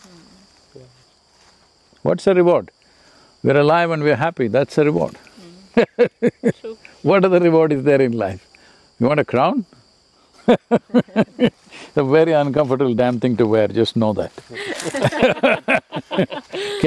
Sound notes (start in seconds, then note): 5.7 laughs; 10.4 laughs; 14.5 laughter